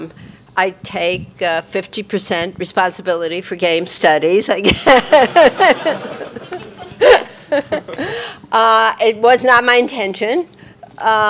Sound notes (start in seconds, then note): 4.7 all laughing